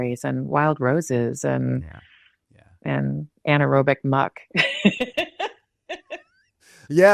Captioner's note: laughs